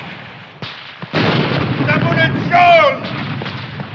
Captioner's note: shouting in german